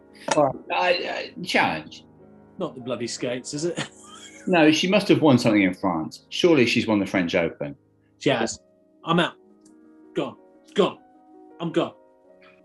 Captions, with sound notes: Alright... challenge. Not the bloody skates, is it? [LAUGHING] No, she must have won something in France. Surely she's won the French Open. She has. I'm out. Gone. Gone. I'm gone.